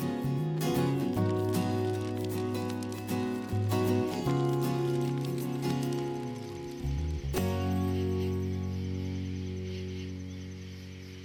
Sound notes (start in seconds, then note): 1.4 fire crackling; 8.3 cicadas chirping